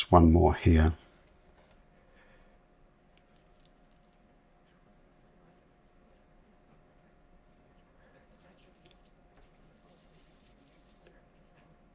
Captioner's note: silence